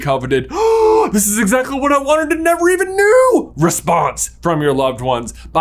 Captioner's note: gaaaaaaasp